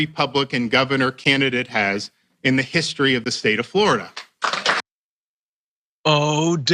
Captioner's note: applause